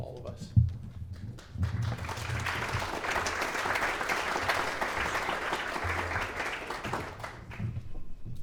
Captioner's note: clapping